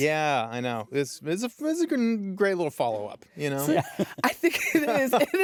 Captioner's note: chuckles